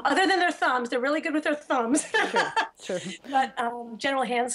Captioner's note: laughs